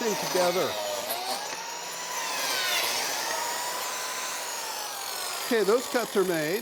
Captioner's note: saw whirring